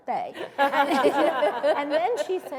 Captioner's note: laughter